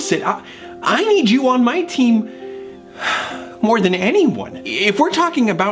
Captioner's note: sighs